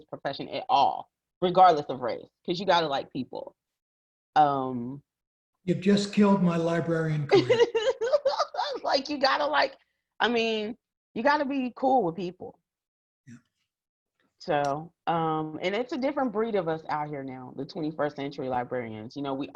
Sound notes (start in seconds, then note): 7.3 laughs